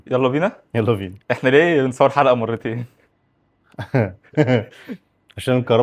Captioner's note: laughs